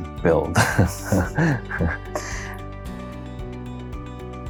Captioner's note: chuckles; gentle music